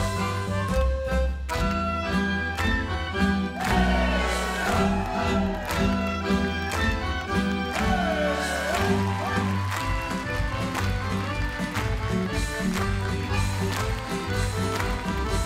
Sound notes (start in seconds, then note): 5.3 dancers clap; 7.7 dancers chant; 9.1 dancers clap; 10.7 dancers chant; 12.1 crowd cheers